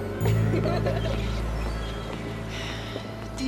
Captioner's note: girls laughing